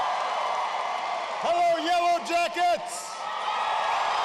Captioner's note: applause